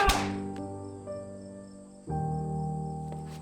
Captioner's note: grunting